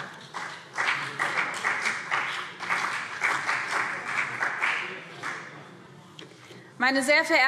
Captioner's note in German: Beifall BÜNDNIS 90/DIE GRÜNEN und vereinzelt CDU